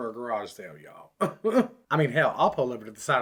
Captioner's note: chuckles